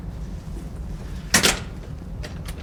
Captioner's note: door clicks